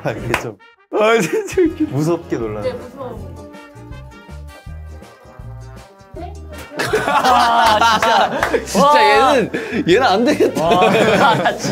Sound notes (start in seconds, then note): 6.7 as soon as the cut sign is said, the members erupt into laughter